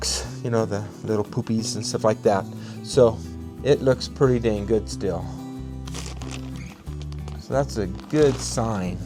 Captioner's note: crunching of plastic sheet